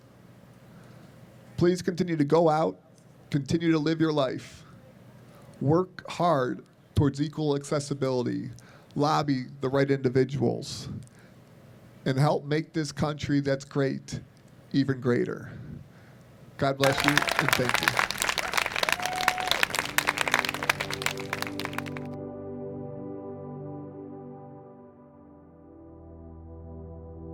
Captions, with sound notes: Please continue to go out, continue to live your life. Work hard toward equal accessibility. Lobby the right individuals, and help make this country, that's great, even greater. God bless you and thank you. (applause) (quiet music)